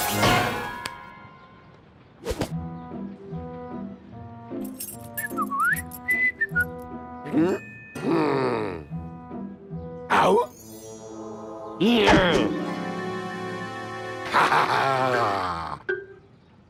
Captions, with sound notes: (whistling) HMM? GRR! OH? HA, HA, HA!